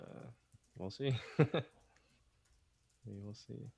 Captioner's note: chuckles